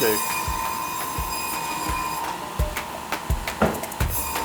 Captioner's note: blade buzzes; upbeat music